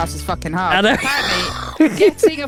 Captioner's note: laughs